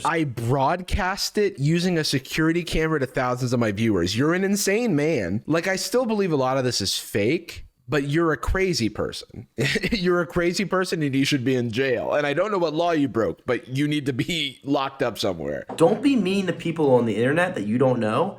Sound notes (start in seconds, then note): 9.6 chuckles